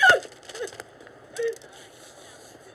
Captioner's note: crying